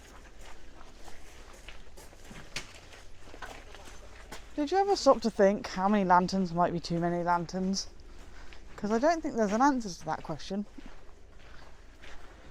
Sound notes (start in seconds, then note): none